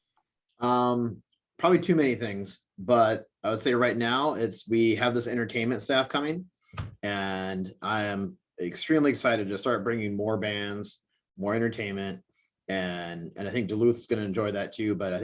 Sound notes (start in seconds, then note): none